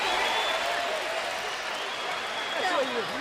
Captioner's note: cheers and applause